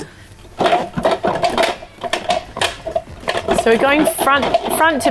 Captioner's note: utensils rattling